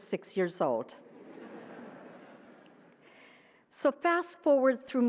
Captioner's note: laughter